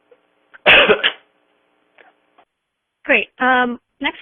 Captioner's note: coughs